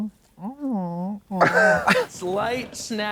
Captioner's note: blonde Women huff